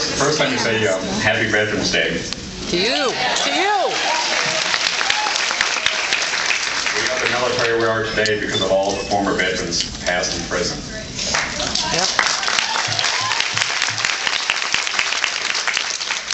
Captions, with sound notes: First let me say, happy Veterans’ Day. [applauds] To you! We are the military we are today because of all the former veterans past and present. [applauds]